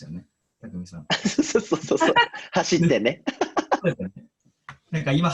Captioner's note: laughs